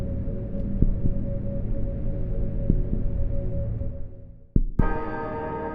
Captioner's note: cave-in noises fade, heartbeat slows down and repeats steadily; eerie ambient noise as heartbeats continue; ambient noise stops, heartbeats continue, deep bell toll begins repeating